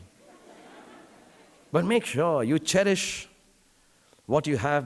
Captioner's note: audience laughing